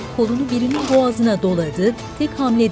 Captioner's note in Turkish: Boyun kırılma sesi